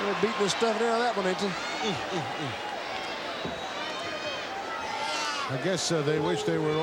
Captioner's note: applause; laugh